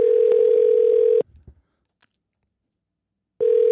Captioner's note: phone ringing